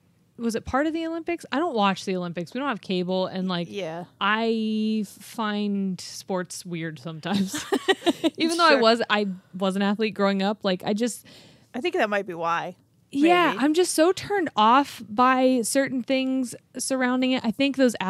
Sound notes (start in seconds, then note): 7.3 chuckling